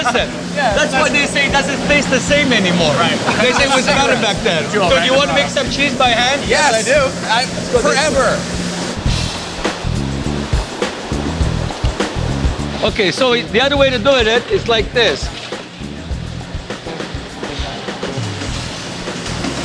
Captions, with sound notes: Listen, that's why they say it doesn't taste the same anymore. - Right. - They say, "It was better back then." (laughs) Do you want to make some cheese by hand? - Yes! - Yes, I do! - Forever... - Let's go do it... (upbeat music) Okay. So, the other way to do it is like this. (factory working sounds)